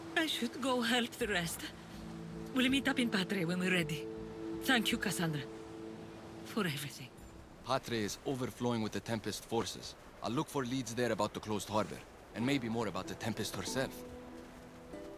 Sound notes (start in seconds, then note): none